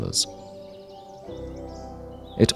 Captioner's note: bird voices